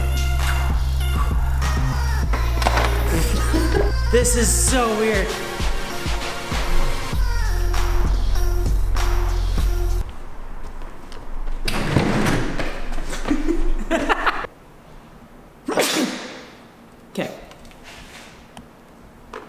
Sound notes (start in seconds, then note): 0.2 electro music; 13.1 laughs; 15.6 sneezes